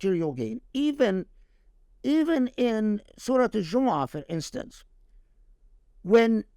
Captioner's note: speaking Arabic